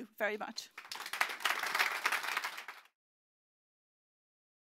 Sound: applause

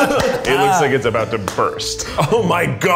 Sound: group laughing; smacks

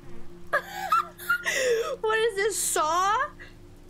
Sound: laughter

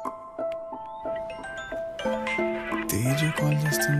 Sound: phone ringing

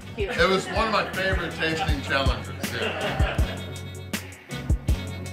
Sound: haha

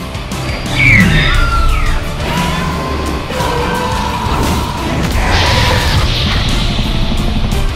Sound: intense music; Hermes and Scorpius Rex Fighting sounds

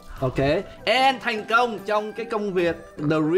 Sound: speaking foreign language

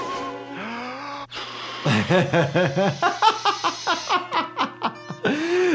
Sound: doctor laughing; Tom inhaling, blowing

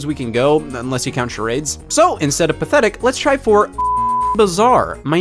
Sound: beeping

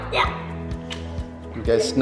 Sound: kissing

